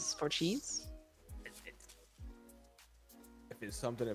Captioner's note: stammers